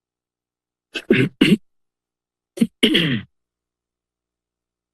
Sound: silence; clears throat; silence

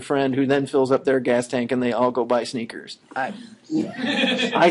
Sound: laughing

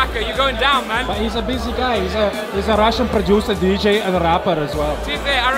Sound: russian accent

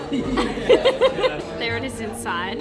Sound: both laughing

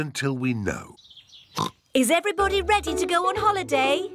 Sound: oinks

